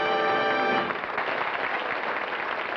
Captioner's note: applause